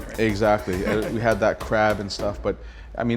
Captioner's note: laughs